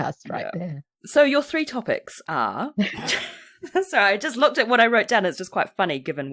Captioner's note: laughs